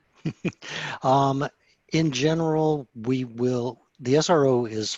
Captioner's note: chuckles